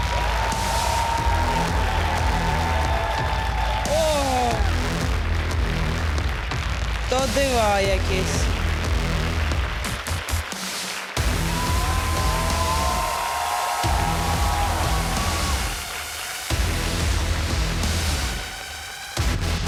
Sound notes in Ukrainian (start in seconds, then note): 0.1 оплески